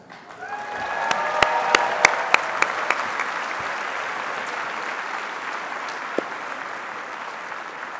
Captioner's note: applause